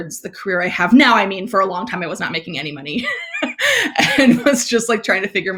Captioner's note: laughs